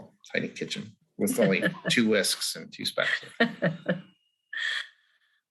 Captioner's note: laughs